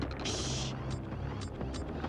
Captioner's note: rumbling